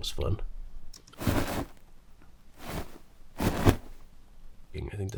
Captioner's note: coat material rustling